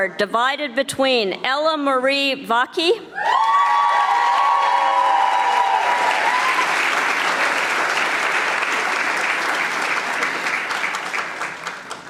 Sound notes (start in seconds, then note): 3.2 audience applauding